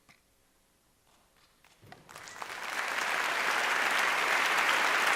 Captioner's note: audience applauding